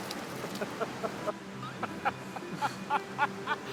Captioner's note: laughter